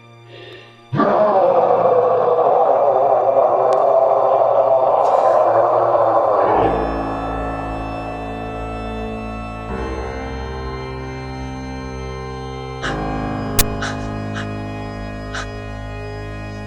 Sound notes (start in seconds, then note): 0.9 Chemock roars; 6.7 ominous music; 12.8 Kathryn breathes sharply